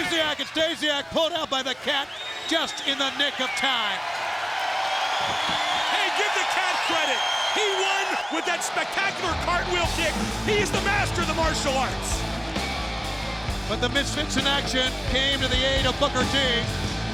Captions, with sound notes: And Stasiak pulled out by The Cat just in the nick of time. (crowd jeering) Hey, give The Cat credit. He won with that spectacular cartwheel kick. He is the master of the martial arts. (rock music) But the Misfits in Action came to the aid of Booker T.